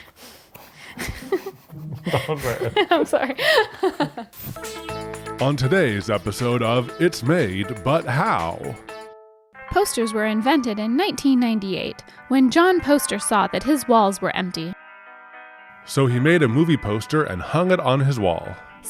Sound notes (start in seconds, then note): 0.8 both laughing